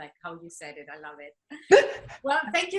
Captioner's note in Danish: laughing